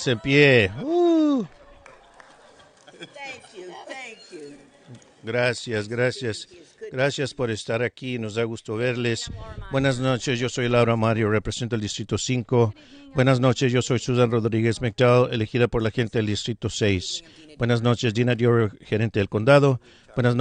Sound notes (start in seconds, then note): 2.0 laughter